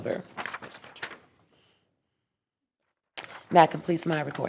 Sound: paper crackling

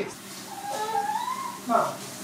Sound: water sprays; baby whines

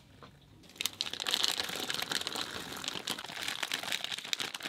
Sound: plastic bag crinkling

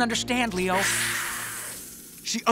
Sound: hissing

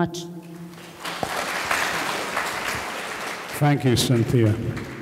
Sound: audience clapping

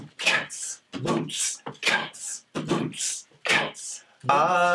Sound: all beatboxing

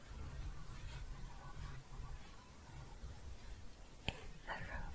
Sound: shuffling

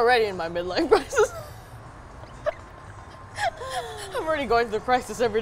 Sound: laughs; both laughing

